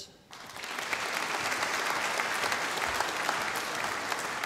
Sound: audience applauding

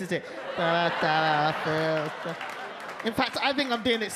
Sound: audience laugh

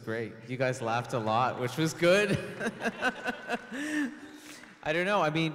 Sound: laughs

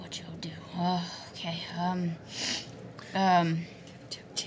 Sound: sniffs

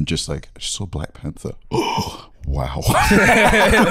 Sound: gasps

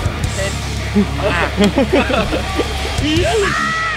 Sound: laughs

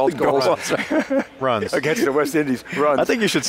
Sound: all laughing

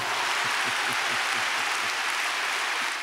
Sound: cheering and applause

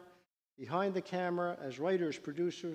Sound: none

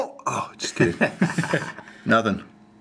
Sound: laughs

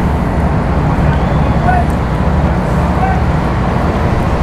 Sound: boater shouts

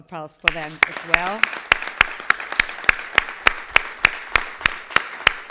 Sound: everybody clapping

